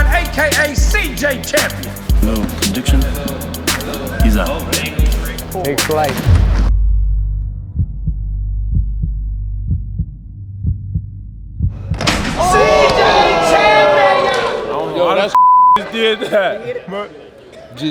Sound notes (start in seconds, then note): 5.5 upbeat music; 7.6 dramatic music; 12.7 all gasping; 15.3 beep